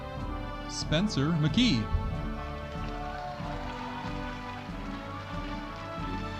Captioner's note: audience applauding